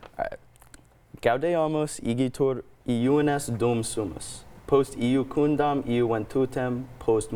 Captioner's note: speaks Latin; continues speaking Latin